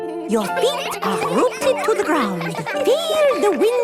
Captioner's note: all giggling